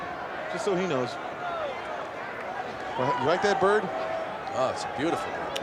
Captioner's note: applause